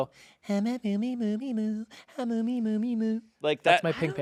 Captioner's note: vocalizing